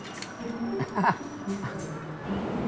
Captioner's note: Risos sarcásticos